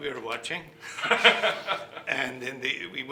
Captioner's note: laughing